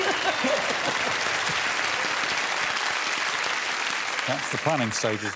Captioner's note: audience applauding